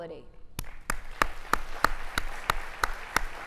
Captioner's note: applauding